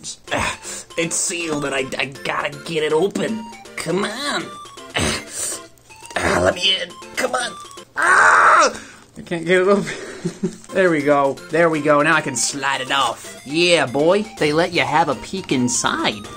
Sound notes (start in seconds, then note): 4.9 struggling noises; 7.9 dramatically screams in agony; 9.8 laughs